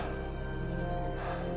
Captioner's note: panting